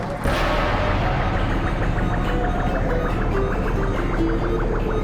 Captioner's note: electronic chirps